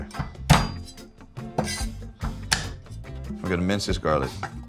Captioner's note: cleaver clanking